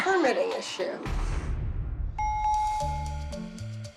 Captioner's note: bell rings